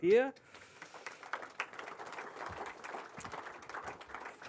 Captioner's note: applause